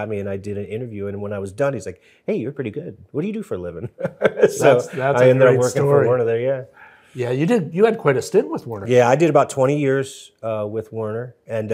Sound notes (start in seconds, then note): 3.8 both chuckle